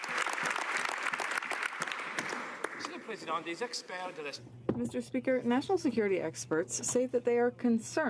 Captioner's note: some Applause